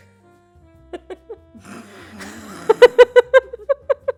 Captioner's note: laughter